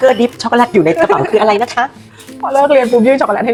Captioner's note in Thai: เสียงหัวเราะ